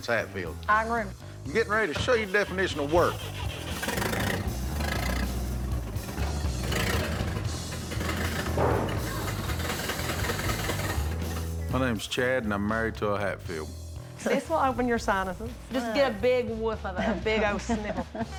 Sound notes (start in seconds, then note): 3.8 engine starts